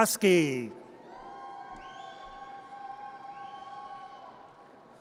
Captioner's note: audience cheers